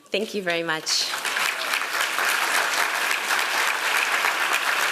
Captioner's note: applause